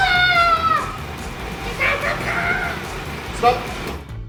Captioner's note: screams